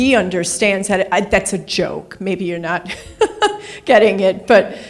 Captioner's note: laughs